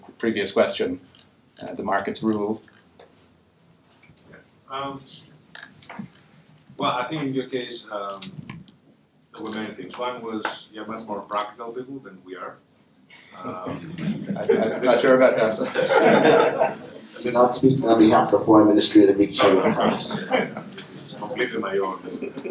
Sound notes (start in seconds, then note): 13.3 laughter